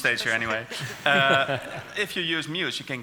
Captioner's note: laughing